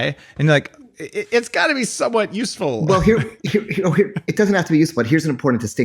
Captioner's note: laughs